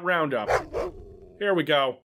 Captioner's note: woof